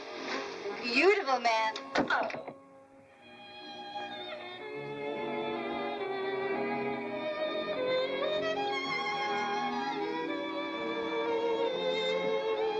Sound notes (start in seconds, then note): 1.9 doors close; 3.0 romantic music